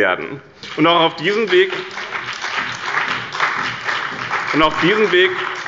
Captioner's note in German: Beifall bei Abgeordneten des BÜNDNISSES 90/DIE GRÜNEN und der CDU